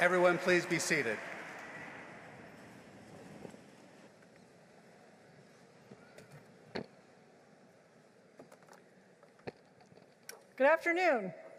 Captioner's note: applause